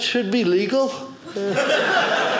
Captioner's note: audience laughing